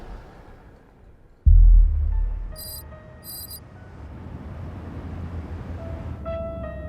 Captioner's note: text clicking; ominous music